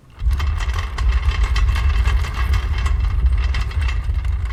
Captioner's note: drawer rolling